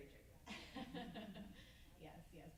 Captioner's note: group laughs